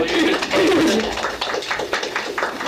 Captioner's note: applause